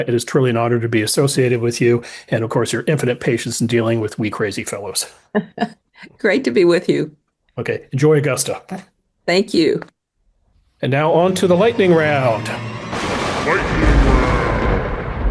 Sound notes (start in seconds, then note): 5.4 chuckles; 11.0 dramatic music; 12.4 lightning cracking